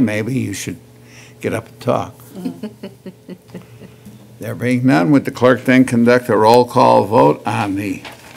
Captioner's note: laughter